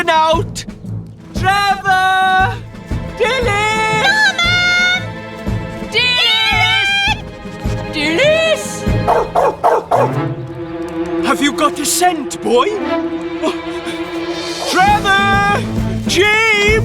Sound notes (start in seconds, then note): 9.0 sniffing; 9.0 barking